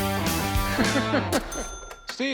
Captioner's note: laughing